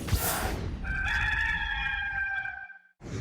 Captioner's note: cock crows